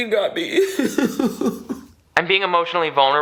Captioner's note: sobbing